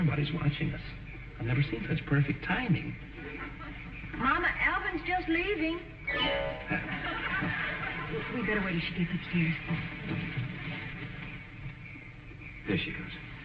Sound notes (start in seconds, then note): 6.2 audience snickering